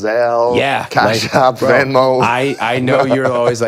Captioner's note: laughs